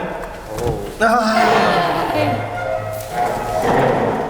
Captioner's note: sigh